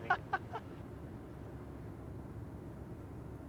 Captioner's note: laughing